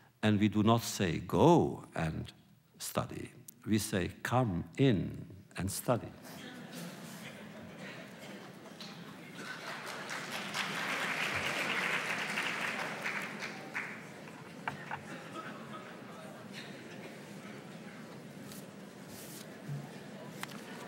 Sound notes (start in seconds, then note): 6.2 applause; 6.2 laughter